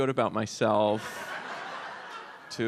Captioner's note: audience laughs